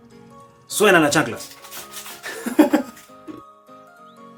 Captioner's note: jajaja